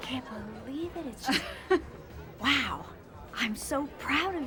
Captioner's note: chuckles